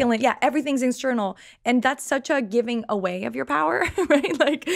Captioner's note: laughs